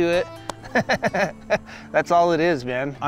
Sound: laughing

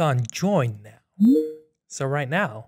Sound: computer chimes

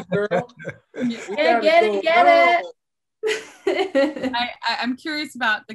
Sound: chuckles

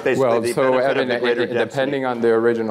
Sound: chattering

